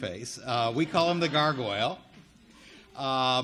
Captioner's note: audience laughing